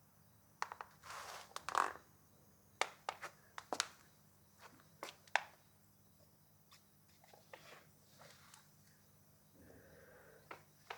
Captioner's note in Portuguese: silêncio